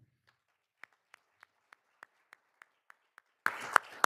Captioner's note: all applauding